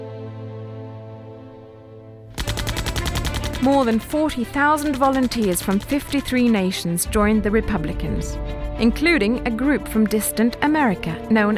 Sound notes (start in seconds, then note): 2.3 gun firing